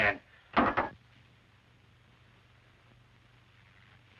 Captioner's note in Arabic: صوت ارتطام الكأس